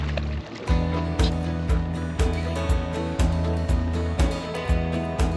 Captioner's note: fish splashing